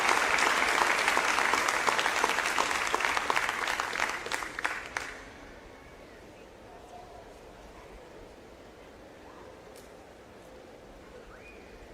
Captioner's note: applause